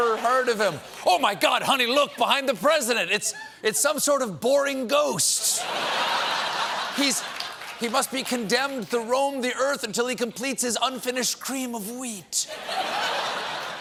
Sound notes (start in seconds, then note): 5.4 laughter